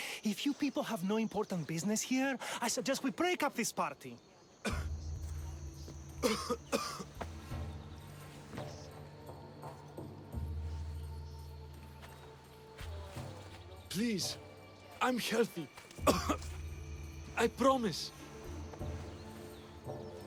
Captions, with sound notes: If you people have no important business here, I suggest we break up this party. (coughing) Please, I’m healthy. (cough) I promise!